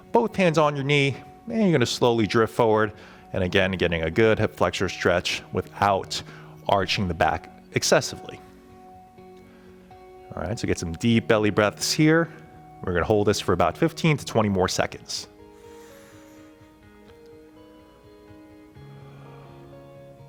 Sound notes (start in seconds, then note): 15.4 inhaling; 18.9 exhaling